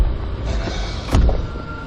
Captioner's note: zombies growling